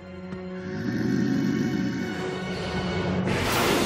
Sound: growling

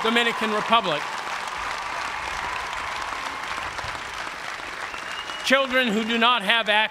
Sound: applause

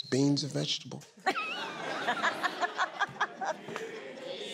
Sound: laughing

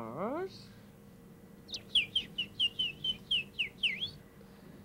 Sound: mimics birds chirping

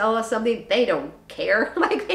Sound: chuckles

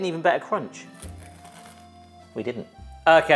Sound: bread crunching

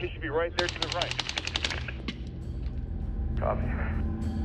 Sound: gunfire

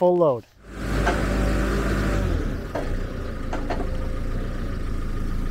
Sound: tractor engine rumbling

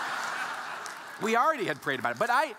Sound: audience laughing

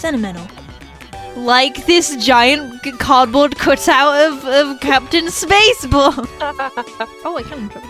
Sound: laughs

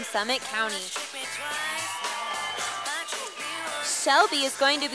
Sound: sound of cheers from the audience

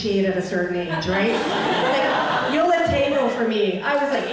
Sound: audience laughing

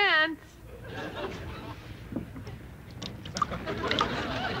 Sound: audience laughter

